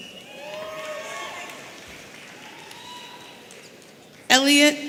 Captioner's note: audience cheering